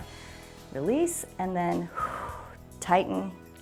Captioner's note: exhales